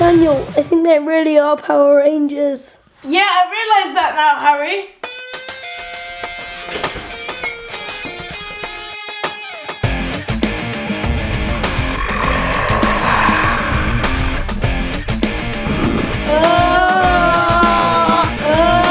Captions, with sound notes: - Daniel, I think they really are Power Rangers. - Yeah, I realise that now Harry. (rock music) (gorilla growling) (moaning)